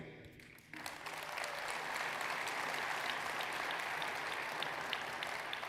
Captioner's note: audience applauding